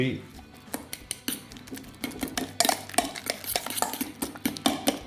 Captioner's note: fork mashing